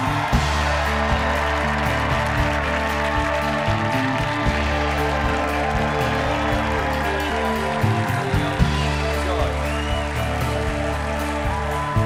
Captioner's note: cheers and applause